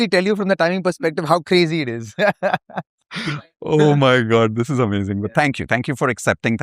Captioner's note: laughter